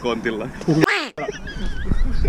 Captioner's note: quack